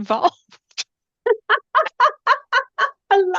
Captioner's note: both laugh